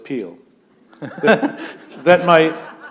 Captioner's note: laughter